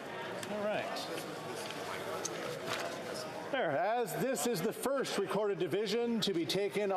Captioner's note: speaking French